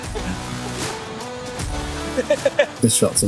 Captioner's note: laughter